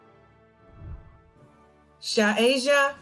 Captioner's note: celebratory music; whooshing